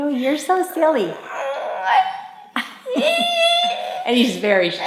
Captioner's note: vocalizing